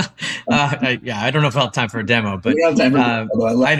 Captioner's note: laugh